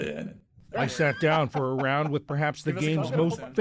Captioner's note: voice-over